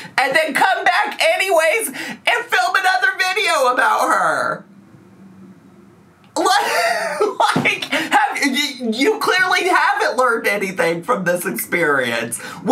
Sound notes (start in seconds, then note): 6.4 laughs